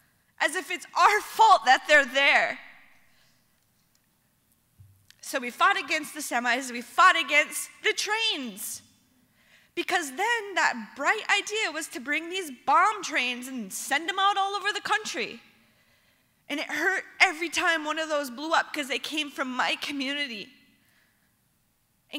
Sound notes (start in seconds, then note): none